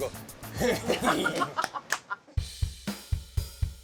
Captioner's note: laughing; upbeat music